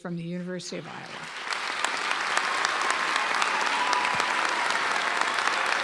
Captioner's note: audience applauding